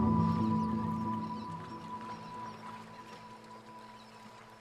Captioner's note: sea gulls squawking